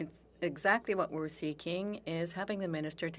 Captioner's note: speaking French